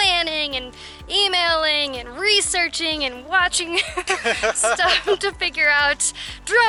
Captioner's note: laughter